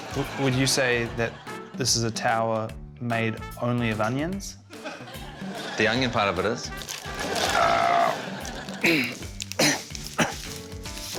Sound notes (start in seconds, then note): 7.4 grunts